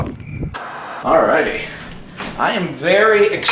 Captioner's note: static crackling